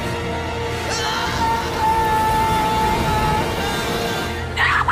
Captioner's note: man screams